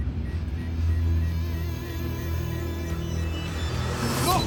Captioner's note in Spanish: Bip